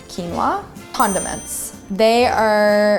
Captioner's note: ding